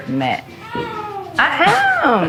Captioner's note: groans